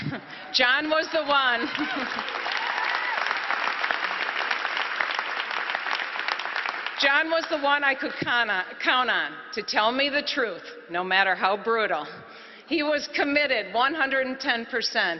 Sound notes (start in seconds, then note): 6.8 applause